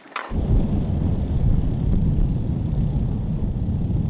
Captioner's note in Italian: rumore di motore in lontananza